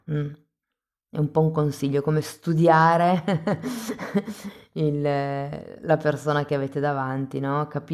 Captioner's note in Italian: risate